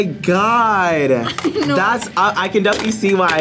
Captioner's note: laughs